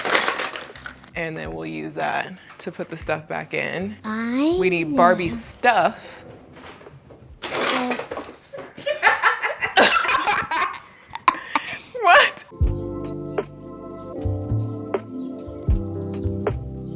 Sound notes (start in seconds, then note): 8.7 laughter; 12.5 soft music plays